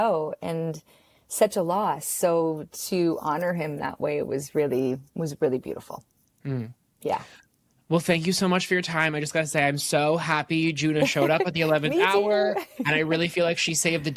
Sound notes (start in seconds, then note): 11.0 laughs